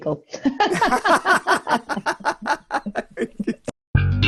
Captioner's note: both laugh loudly